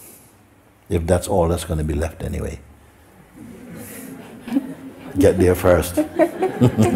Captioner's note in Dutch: gelach